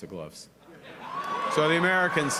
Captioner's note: cheering